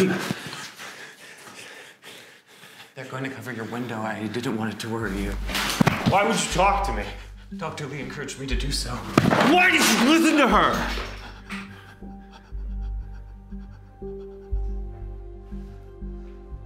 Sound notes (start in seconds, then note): 2.1 Alister panting; 12.8 Michael panting; 14.0 tense music